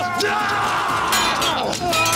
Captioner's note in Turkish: Bağırma sesleri; Dövüş sesleri